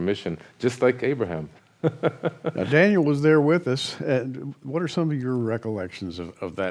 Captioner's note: laughter